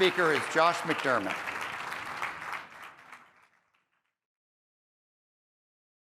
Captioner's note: applause